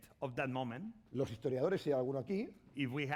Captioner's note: speaking spanish